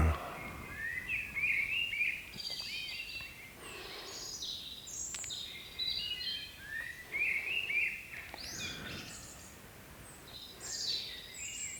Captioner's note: birds chirping